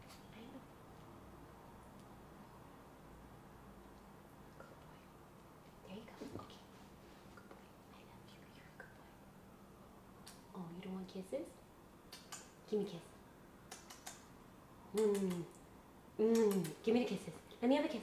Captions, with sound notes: Good boy. There you go, okay, good boy, I love you, you're a good boy. (lip smacks) Oh, you don't want kisses? (lips smack) Give me kiss, (lips smacking) Mm, mm, (lips smacking) give me the kisses,